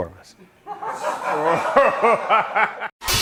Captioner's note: laughter